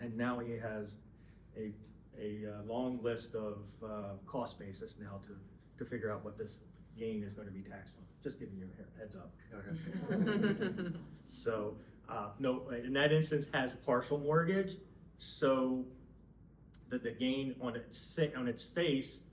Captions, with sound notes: And now he has a long list of cost basis now to figure out what this gain is gonna be taxed on. Just giving you a heads up. (laughing) So in that instance has a partial mortgage so that the gain on its face